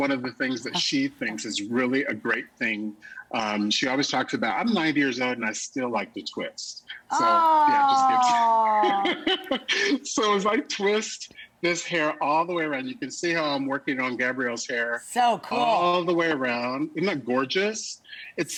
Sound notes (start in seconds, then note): 7.6 laughter